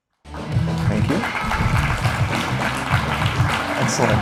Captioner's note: applause